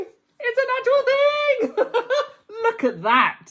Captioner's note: laughing